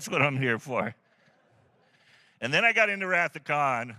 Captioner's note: laughter